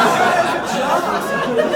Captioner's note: laughs